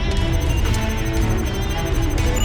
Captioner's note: computer beeping rapidly